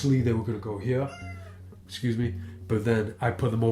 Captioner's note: cat meowing